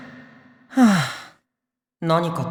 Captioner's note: sigh